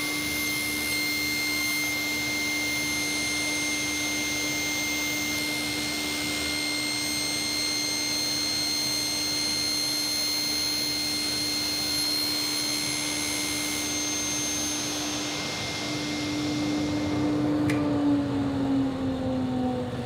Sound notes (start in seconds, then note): 10.2 machine squeaking; 17.5 Leiser nascent machines hum